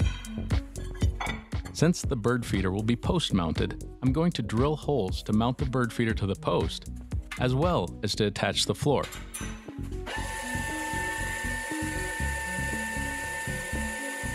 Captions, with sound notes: Since the bird feeder will be post-mounted, I'm going to drill holes to mount the bird feeder to the post, as well as to attach the floor. (drill whirring)